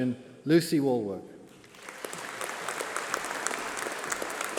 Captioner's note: applause